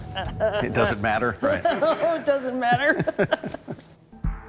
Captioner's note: chuckling